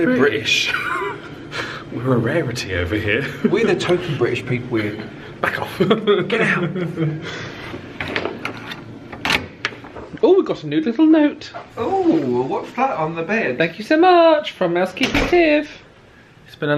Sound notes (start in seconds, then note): 0.6 laughs; 9.0 door clatters